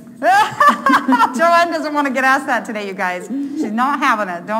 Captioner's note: laughing